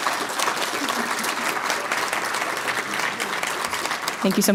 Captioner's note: applause